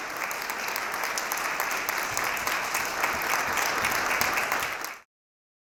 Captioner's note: applause